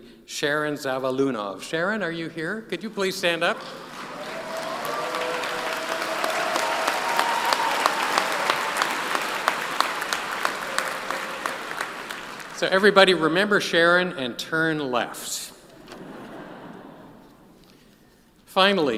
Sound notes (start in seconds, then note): 10.2 appaluse